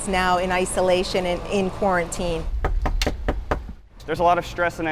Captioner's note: knocking